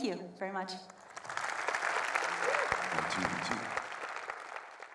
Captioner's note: audience applauds